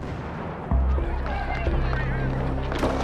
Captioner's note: explosions, gunfire